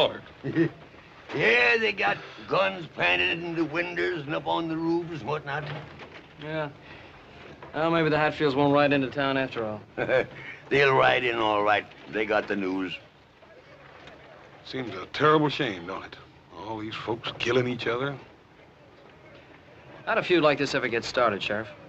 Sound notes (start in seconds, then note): 0.4 laugh; 9.8 chuckling